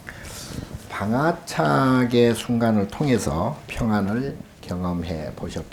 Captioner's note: speaking Korean; speaking Korean